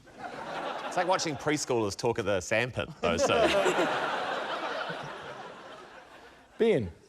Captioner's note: laughter; laughter